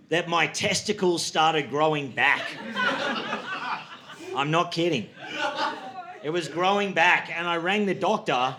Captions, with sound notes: that my testicles started growing back. (audience laughing) I'm not kidding. It was growing back and I rang the doctor